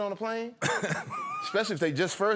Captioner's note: laughter